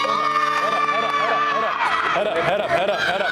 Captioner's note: children scream and shout